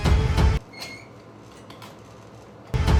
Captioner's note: squeak